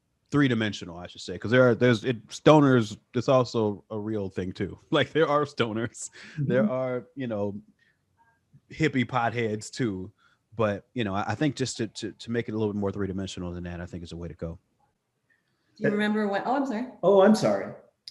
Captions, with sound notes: Three-dimensional I should say 'cause there's stoners that's also a real thing too. Like there are stoners (laughs), there are hippie potheads too but I think just to make it a little bit more three-dimensional than that I think is a way to go. Do you remember when, Oh, I'm sorry. Oh, I'm sorry.